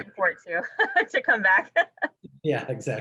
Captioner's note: laughs